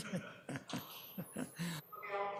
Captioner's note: laughter